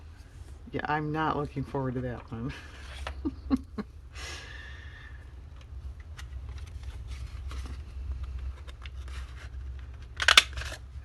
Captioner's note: laughs